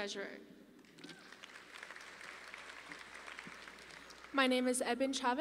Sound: audience applauding

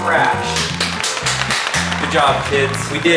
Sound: clapping

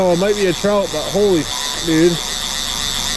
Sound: beep

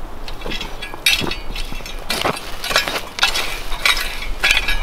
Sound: rake scraping

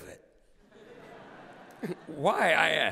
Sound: laughter

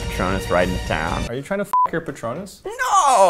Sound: beep

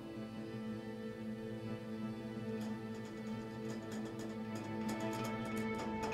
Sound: footsteps; tea kettle clattering

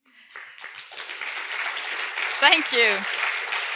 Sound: audience applauding

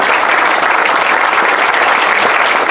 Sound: applause

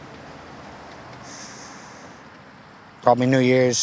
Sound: breathes deeply

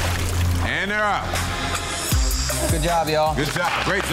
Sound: water splashing

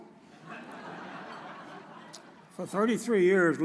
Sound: audience chuckles

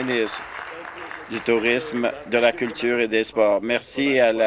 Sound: applause

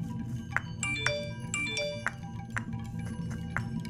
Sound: phone dings twice

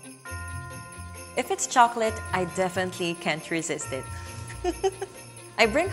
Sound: laugh

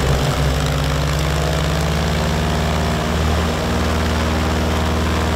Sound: blowing continues

